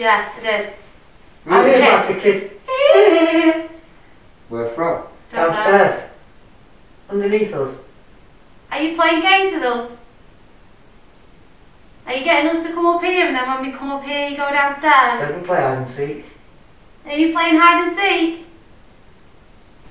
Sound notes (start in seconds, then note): 2.6 laugh